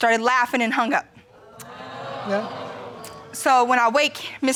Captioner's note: crowd